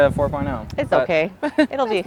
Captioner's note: laughs